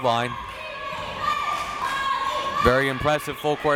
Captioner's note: crowd members chanting